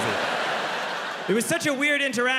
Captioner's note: audience laughing